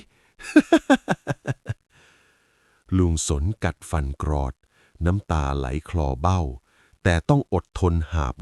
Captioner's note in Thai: เสียงหัวเราะ